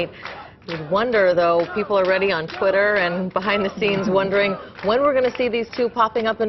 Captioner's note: crowd cheering